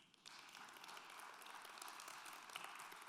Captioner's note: applause